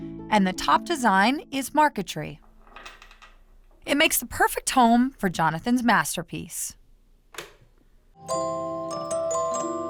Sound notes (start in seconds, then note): 7.0 click; 8.2 music box playing